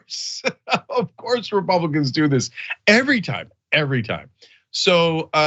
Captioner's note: laugh